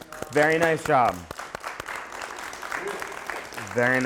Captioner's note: applause